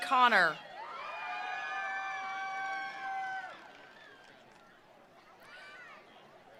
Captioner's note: attendees cheering; attendees applauding